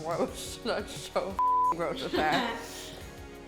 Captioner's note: beep